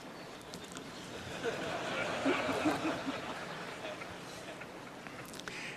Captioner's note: laughter